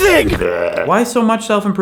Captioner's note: gags